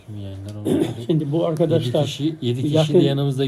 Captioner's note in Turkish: boğazını temizler